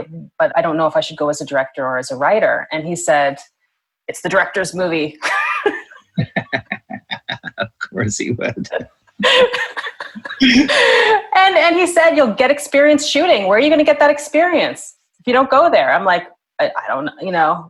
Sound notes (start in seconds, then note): 5.2 laughter